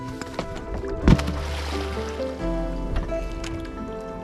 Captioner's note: water splashes